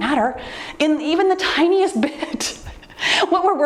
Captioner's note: laughs